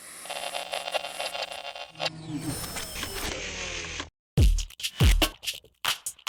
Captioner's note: static and mechanical noise